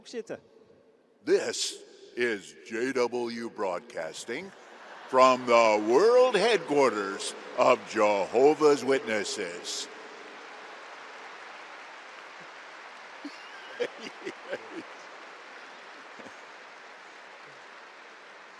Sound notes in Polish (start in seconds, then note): 11.0 Aplauz